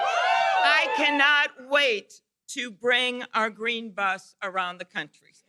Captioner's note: cheers and applause